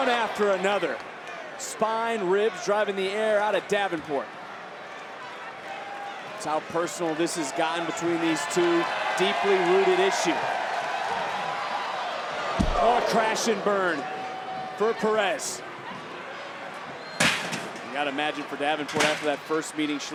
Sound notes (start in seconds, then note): 4.5 crowd cheering; 10.8 crowd cheering; 12.5 crowd sighing; 15.6 crowd chattering; 17.2 chairs clattering